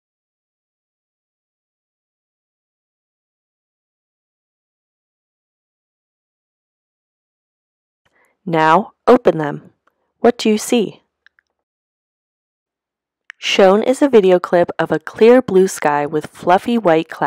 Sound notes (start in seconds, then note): 1.4 silence